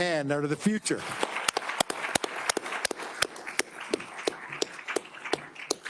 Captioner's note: attendees applauding